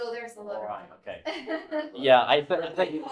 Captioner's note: laughing